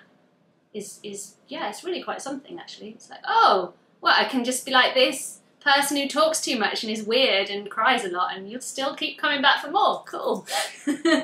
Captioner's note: laughs